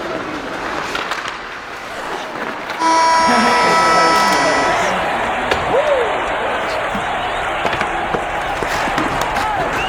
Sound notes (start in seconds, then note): 2.8 horn blows; 3.2 everyone cheers